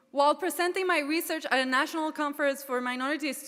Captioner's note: none